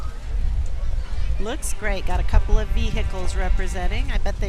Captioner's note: children chattering